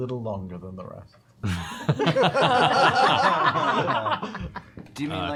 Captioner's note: laughter